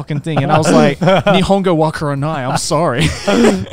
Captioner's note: speaks in foreign language